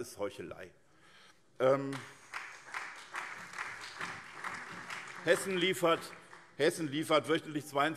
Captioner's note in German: Beifall SPD, vereinzelt CDU und BÜNDNIS 90/DIE GRÜNEN